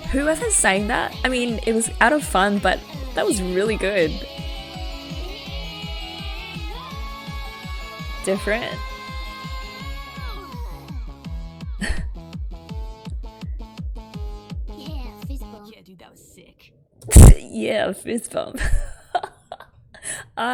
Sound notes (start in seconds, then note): 11.8 chuckles; 19.3 laughs